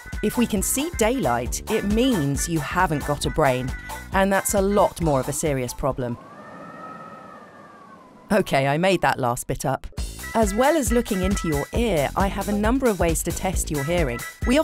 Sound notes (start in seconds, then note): 6.5 wind howling